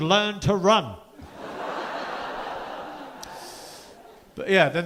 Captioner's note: audience laughing